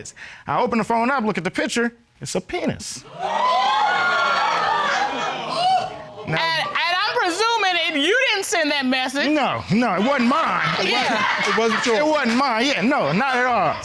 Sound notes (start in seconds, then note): 3.0 audience cheering